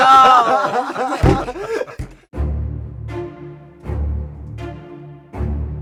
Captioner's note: crew laughs; director pounds table